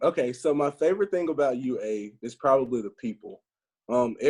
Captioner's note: none